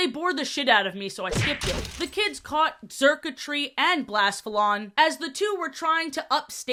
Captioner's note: crashing sfx